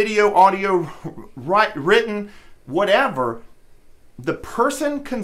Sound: stammers

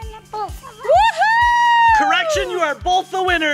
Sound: wooing

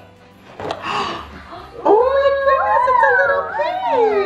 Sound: gasps

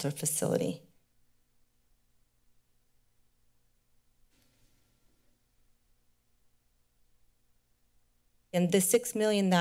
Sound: silence

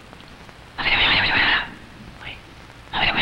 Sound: man whispers

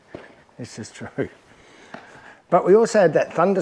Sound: laughs

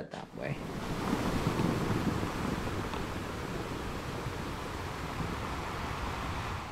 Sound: sound of waves

